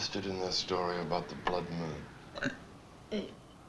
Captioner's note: she burps